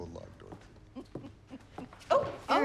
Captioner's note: renee chuckles warmly